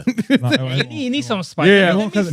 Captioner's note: laughing